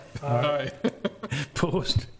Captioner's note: laughing